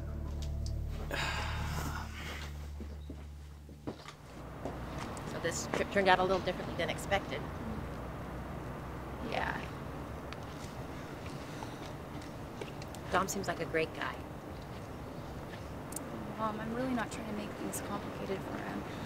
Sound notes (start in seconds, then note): 1.0 sighing